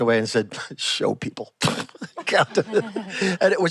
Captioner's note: laughs